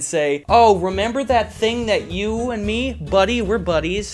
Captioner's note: excitedly